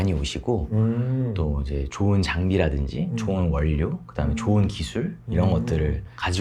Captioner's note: speaking in Korean